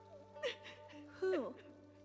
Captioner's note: sobbing